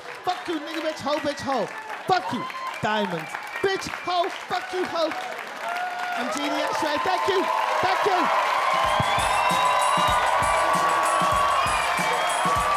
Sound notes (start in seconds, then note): 7.7 audience cheer and applaud; 8.6 upbeat music